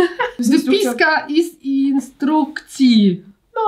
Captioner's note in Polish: rosyjski